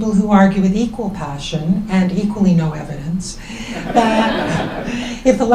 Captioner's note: laughs